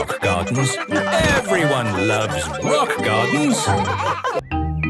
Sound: laughter

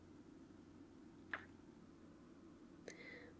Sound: kiss; kiss

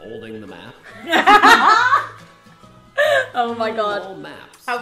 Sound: laughing

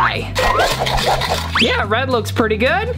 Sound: sugar scratchily stirring

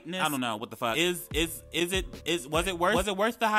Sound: man stammering

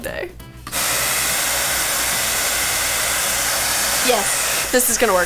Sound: hair dryer blowing

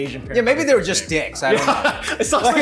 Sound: laughing

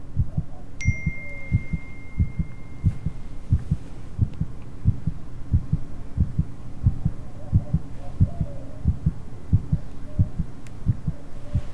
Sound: heart beating; phone pings

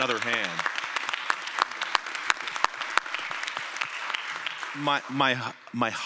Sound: applause

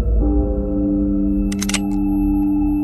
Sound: gun clicks

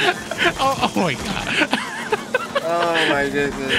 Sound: laughing

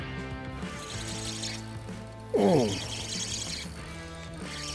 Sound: fishing line whines

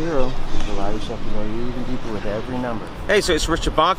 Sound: wind drowns out talking

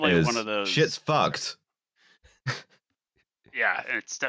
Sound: whispers

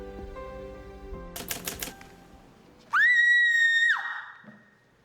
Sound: screams

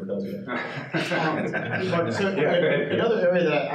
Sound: participants laughing

